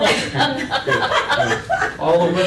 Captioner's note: laughter